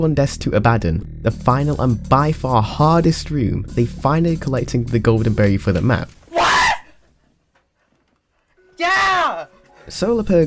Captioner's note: screams